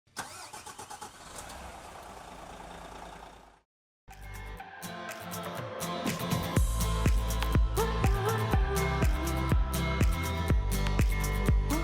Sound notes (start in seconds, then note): 0.1 engine starting; 4.1 upbeat music